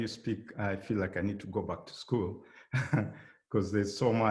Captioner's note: chuckling